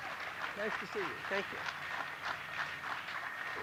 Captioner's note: applause